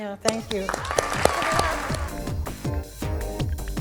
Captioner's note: audience applause